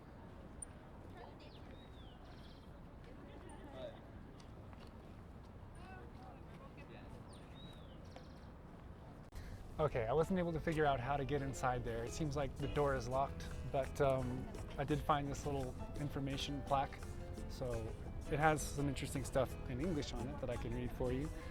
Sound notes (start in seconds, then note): 1.4 birds chirping